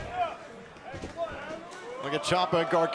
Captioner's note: crowd cheering